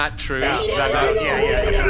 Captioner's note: echoing menacingly